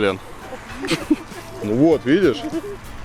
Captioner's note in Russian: смех